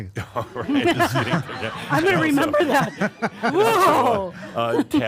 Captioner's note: chuckles